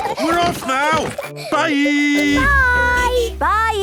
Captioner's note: laughter; honking; contented sigh